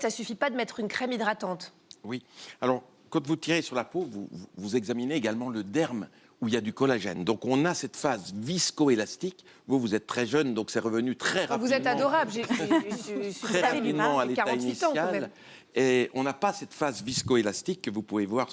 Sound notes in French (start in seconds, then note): 12.4 rires